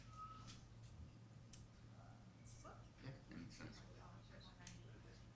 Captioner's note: people murmuring